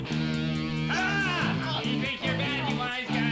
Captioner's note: yelling